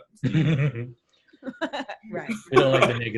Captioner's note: softly laugh